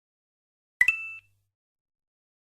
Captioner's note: ding